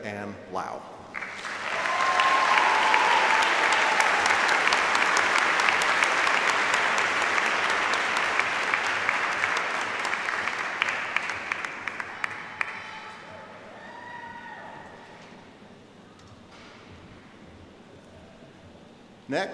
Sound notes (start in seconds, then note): 5.0 applause